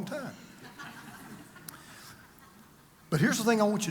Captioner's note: congregation laughs